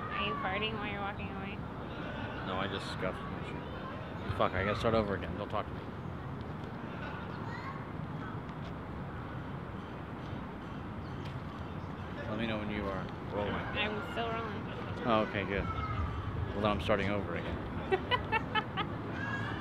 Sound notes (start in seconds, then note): 17.8 producer laughs